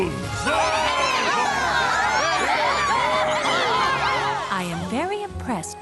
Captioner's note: cheers